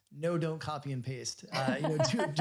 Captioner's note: laughs